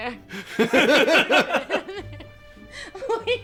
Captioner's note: more crying speech